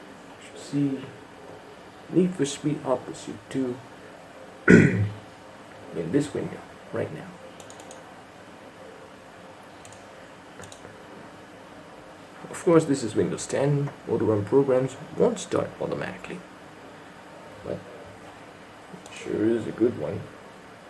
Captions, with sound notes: YOU SHOULD SEE NEED FOR SPEED HOT PURSUIT 2 [CLEARS THROAT] IN THIS VIDEO RIGHT NOW OF COURSE THIS IS WINDOWS 10 AUTORUN PROGRAMS WON'T START AUTOMATICALLY BUT, SURE IT'S A GOOD ONE